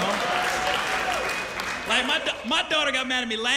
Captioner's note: cheers and applause